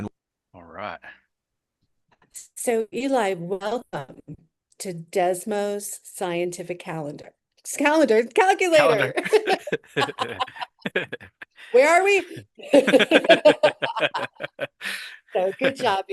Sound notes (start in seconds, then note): 8.7 laughs